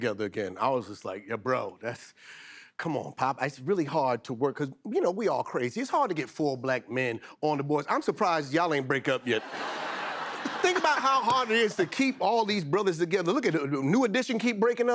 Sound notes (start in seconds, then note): 9.3 laughter